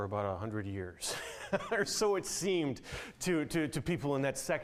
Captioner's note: laughing